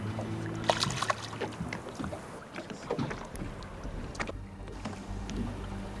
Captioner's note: water splashing